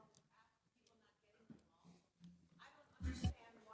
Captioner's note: faintly speaking